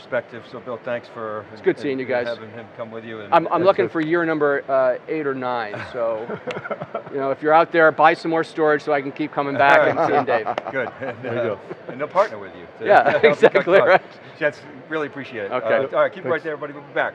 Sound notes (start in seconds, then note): 5.7 laughs; 13.0 laughs